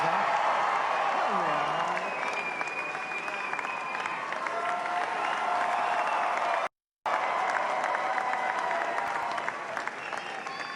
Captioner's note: applause